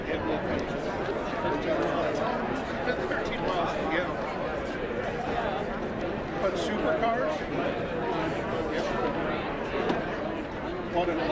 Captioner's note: indistinct chatter